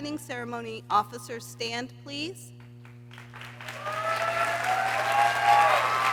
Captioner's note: people cheering